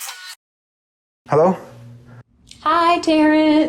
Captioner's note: none